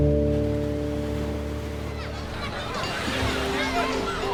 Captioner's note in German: Meeresrauschen